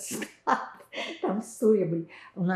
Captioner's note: laughing